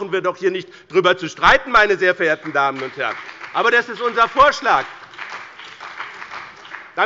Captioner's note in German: Beifall bei dem BÜNDNIS 90/DIE GRÜNEN und der CDU